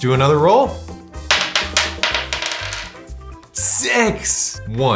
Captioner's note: dice rattle